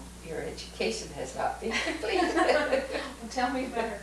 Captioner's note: laughter